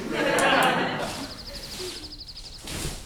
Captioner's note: sitcom laugh track; birds chirping